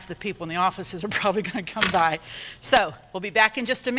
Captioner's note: laughs